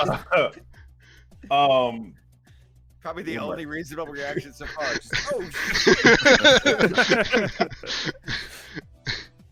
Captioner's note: laughter; laughter